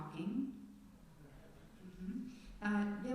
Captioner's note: murmured affirmation